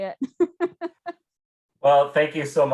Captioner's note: chuckles